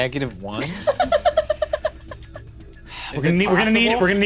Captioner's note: laughs